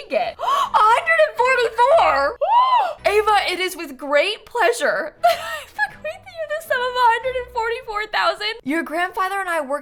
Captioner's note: gasps